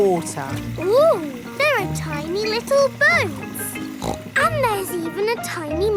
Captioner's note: snorts